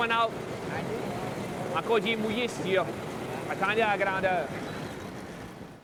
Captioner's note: speaking Acadian French